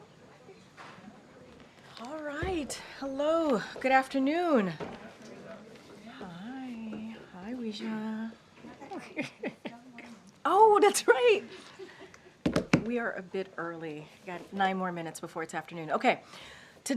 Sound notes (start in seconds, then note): 8.9 laughs